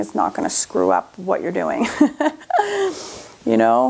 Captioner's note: laughs